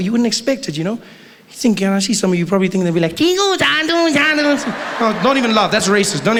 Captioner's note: stereotypical Chinese jibberish